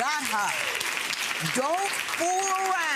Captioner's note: audience clapping